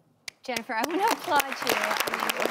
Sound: applause

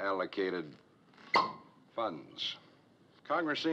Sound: pops

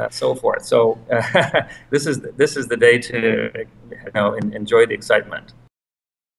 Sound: laugh

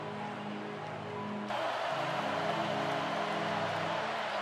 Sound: crowd noises

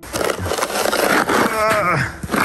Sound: snow shovel scraping; man grunting

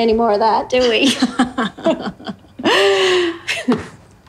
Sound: laughter

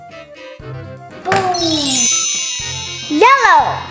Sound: chimes

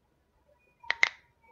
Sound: crack

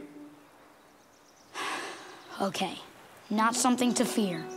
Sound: sighing

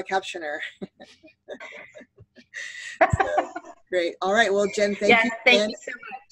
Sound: laughter

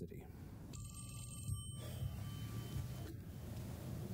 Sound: phone ringing

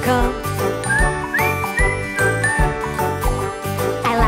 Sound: whistling

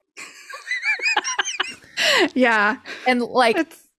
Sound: laughs

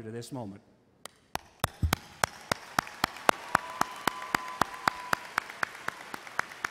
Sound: audience cheers and applauds

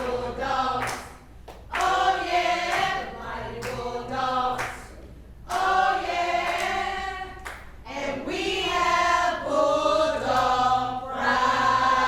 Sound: applause

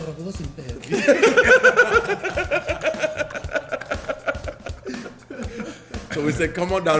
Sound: laugh

